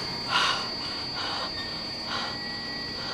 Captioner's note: Connie breathing heavily